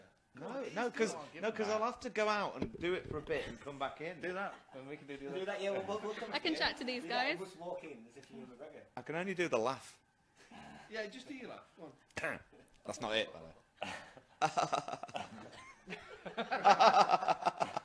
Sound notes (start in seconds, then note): 12.3 clears throat; 14.4 laughs sort of like Ewan McGregor